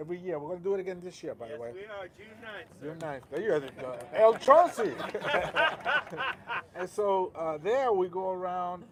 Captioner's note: laughter